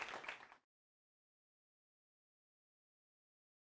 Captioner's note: applause